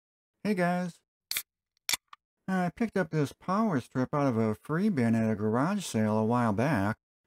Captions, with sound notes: Hey guys. [beer opening sound] I picked up this power strip out of a free bin at a garage sale a while back.